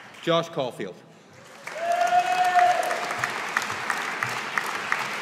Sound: audience applauding

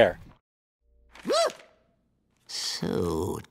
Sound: startled sound

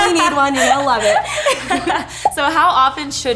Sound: laughing

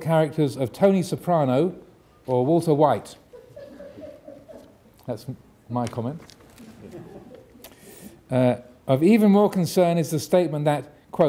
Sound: audience laughing

